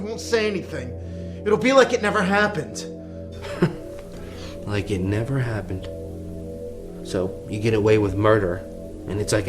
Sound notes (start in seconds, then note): 3.4 chuckling